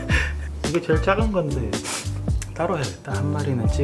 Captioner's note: sniffle